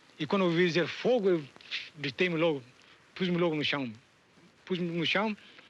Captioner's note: speaking in foreign language